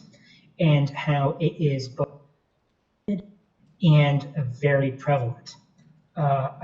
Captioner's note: audio distorts